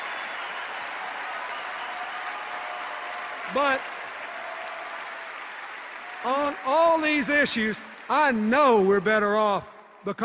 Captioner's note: cheers and applause